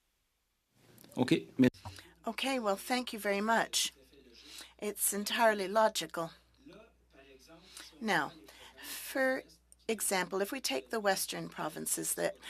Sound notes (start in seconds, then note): 8.2 speaking French